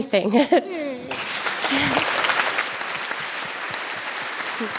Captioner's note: audience applauds